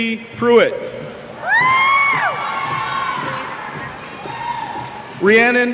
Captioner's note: cheers